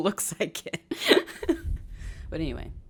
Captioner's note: laughs